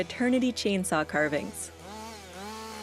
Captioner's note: chainsaw whirring